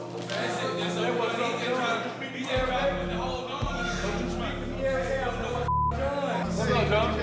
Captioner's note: indistinct chatter